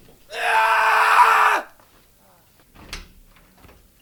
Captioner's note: man screaming